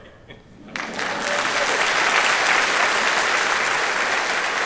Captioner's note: audience applauds